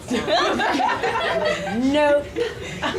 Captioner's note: audience laughs loudly